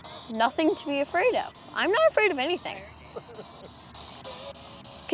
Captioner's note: uncertainly chuckles